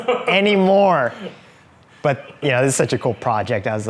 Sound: laughing

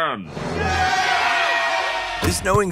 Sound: people cheer

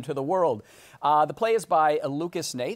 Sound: normal voice

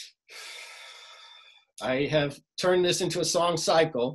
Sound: sighs

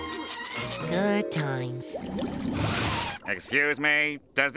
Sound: none

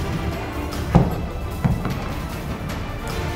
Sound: thump

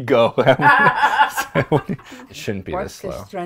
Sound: all laugh

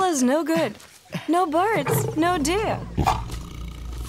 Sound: tiger roars

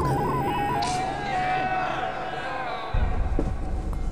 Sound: shouting

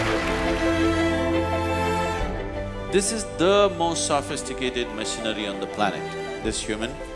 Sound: applause

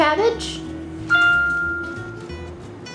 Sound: microwave dings; upbeat instrumental music

